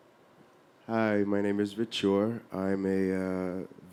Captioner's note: voiceover